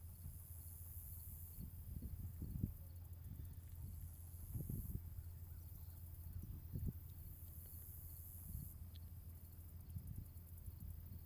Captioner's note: sounds of nature